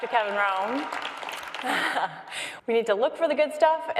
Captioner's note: crowd applauds